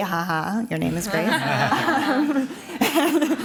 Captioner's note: laugther